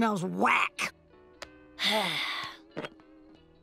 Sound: sighing

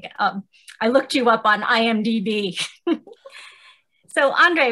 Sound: chuckles

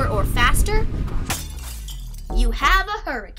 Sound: truck crashes

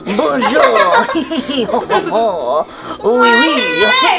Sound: mummy laughing

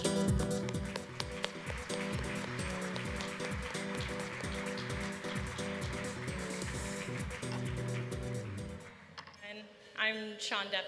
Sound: applause, music

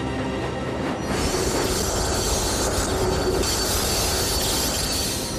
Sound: brakes squeal

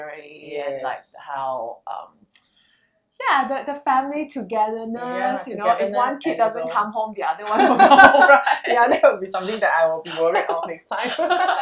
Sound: laughters

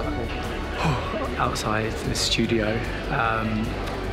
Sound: sighs

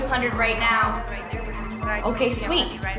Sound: phone rings

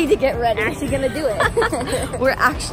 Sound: laughing

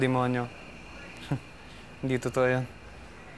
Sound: scoffs

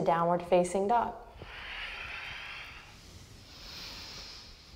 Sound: deep breathing

